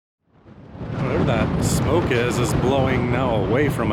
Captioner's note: wind's howling